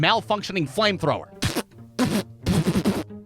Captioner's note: pfft